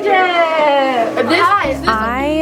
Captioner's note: excited chatter from students